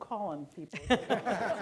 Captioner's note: laughter